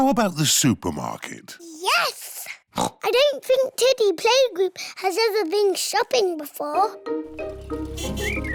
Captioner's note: oinks